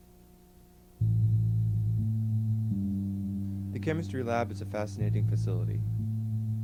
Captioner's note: male Voice